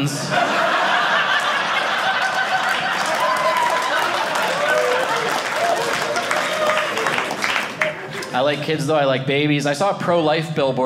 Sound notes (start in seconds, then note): 0.0 audience laughing; 3.2 audience cheering